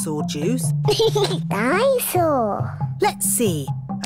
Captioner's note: giggles